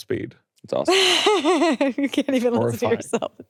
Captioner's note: laughing